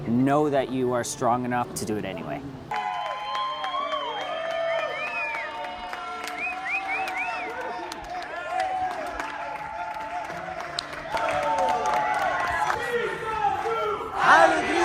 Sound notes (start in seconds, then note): 2.7 applauses; 2.8 whistling